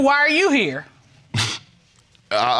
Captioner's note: scoffs